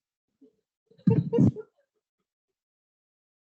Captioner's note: laughs